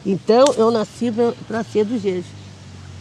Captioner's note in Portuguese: veículo passa ao fundo